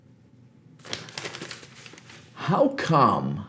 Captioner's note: Folheando jornal